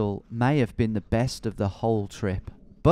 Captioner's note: none